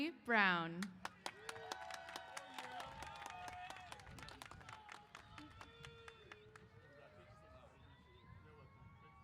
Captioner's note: applause & Cheers